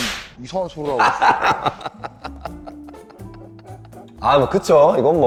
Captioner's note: laughing